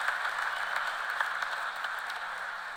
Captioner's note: cheers and applause